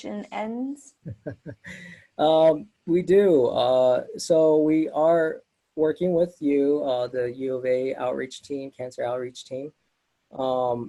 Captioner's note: laughs